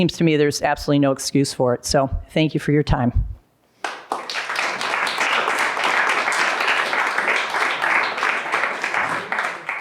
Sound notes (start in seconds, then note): 3.8 applause